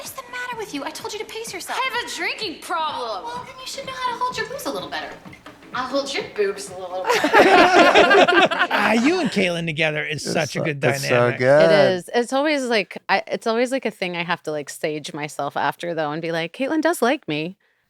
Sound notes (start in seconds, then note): 7.0 laughter